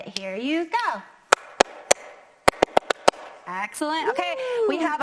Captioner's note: clapping to the rhythm